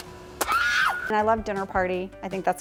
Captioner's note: screams